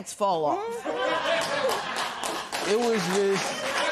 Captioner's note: laughter and applause